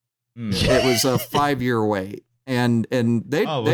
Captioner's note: laughs